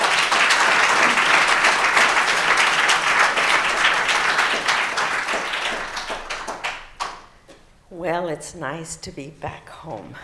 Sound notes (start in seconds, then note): 7.5 applause